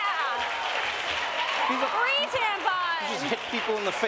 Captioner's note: applause